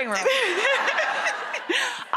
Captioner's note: both laughing